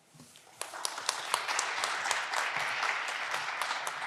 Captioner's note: audience clapping